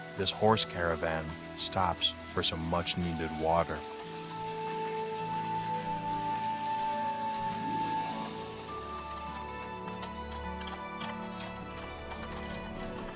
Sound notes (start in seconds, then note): 4.8 water trickling; 5.3 upbeat music